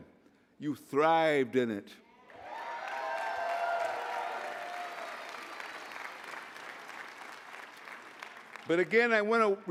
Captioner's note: applause